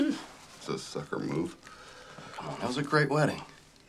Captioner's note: laughs